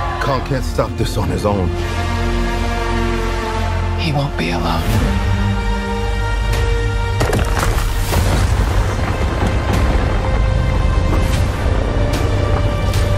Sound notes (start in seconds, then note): 7.2 ice cracks